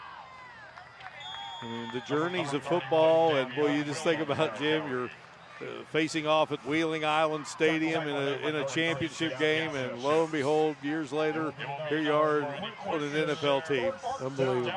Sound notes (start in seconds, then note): 6.0 applause